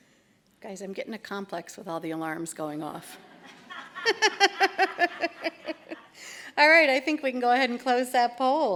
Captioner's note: laughter